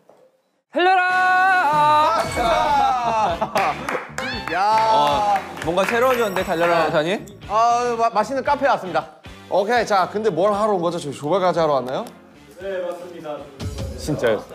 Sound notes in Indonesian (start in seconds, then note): 3.5 Tepuk tangan untuk kreasinya